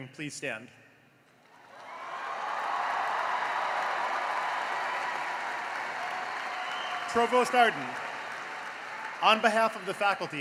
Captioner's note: cheering and applause